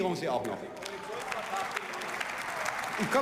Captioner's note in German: Beifall und Zwischenruf